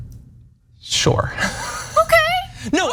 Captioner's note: laugh